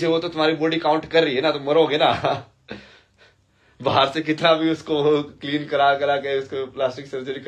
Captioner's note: हंसी